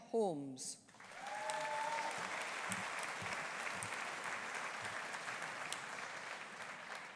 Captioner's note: audience applauding; audience cheering